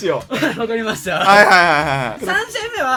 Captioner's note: laugh